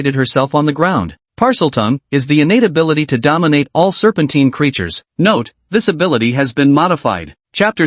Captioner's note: Parseltongue